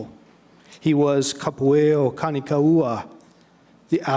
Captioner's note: speaking in foreign language